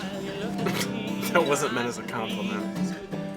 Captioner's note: scoffs